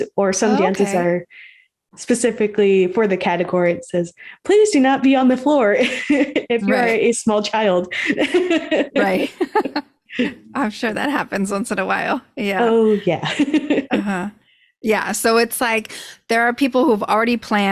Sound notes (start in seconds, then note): 8.1 laughs